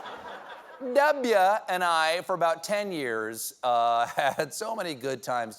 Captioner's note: laughter